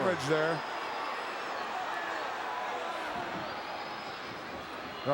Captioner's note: crowd murmuring